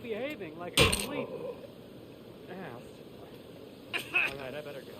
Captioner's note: character coughs; character thuds